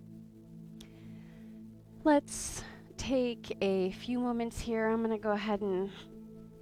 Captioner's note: breathes